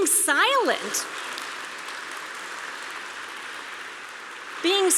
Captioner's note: applause